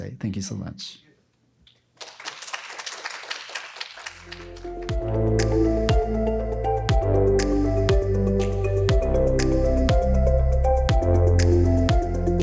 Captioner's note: applause